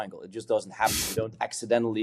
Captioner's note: sniffs